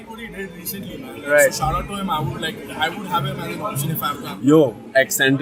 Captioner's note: foreign